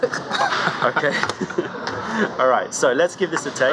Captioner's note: laughter